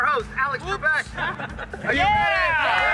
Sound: everybody laughs

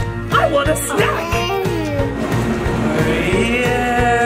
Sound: laughs

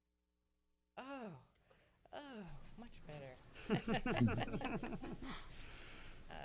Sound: loud laughter

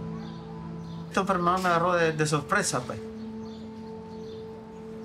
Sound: speaking Spanish

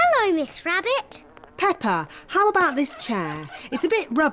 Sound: flies buzzing

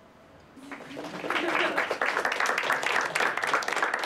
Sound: applause

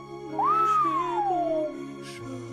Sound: whistles

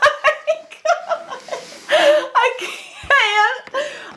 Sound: laughs

